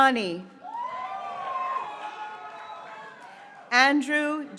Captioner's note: graduates cheering